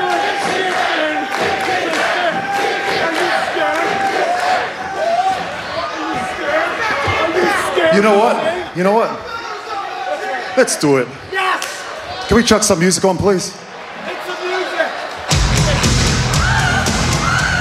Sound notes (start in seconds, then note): 8.8 crowd chanting